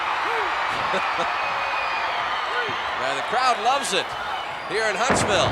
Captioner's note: laugh